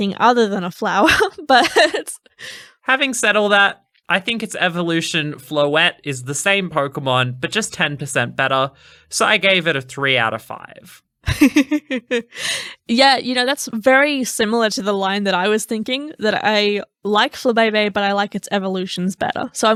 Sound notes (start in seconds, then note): 1.0 laughing; 11.2 laughing